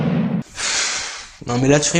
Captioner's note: sigh